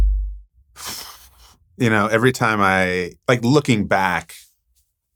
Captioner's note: exhaling